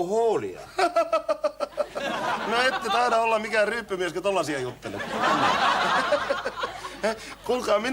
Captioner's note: laughing